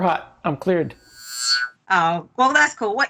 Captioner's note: futuristic whirring